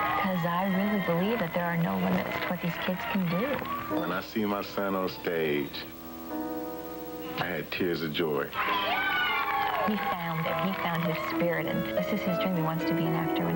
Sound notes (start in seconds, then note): 8.4 crowd cheering